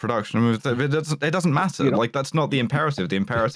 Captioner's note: stammers